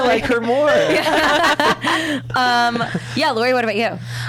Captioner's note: laughs